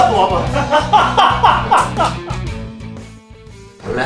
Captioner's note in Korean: 멤버들의 웃음소리